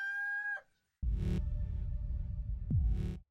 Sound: loud crowing; pulsing; heart beating

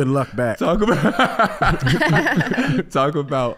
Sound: all laughing

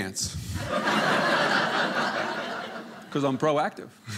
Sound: audience laughing

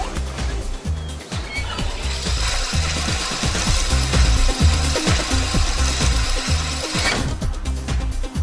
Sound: mechanical sound

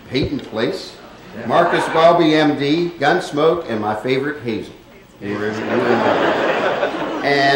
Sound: laughter

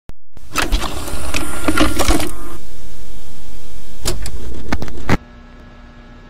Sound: VHS tape getting loaded; buzzing from Light

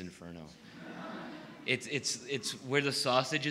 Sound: laughing

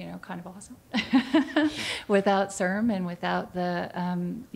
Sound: laughter

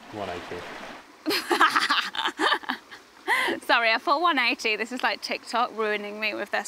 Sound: laughs

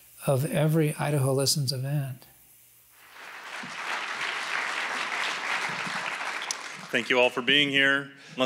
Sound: applause

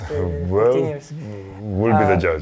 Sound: laughs

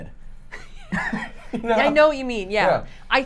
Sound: both laughing

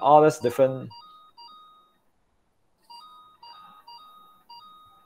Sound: game chiming

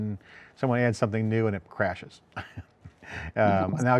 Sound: chuckles

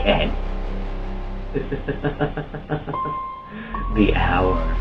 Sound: laughter

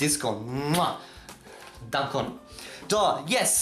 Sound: kiss

